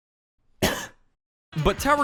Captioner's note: resentful cough